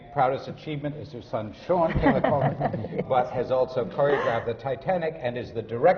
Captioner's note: laughter from the panel